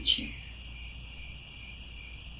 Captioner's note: crickets